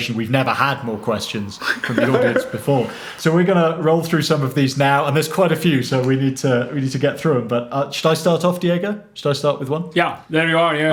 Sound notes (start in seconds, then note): 1.5 chuckles